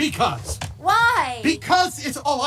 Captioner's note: As Bo Peep